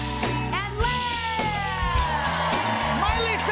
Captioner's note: cheers and applause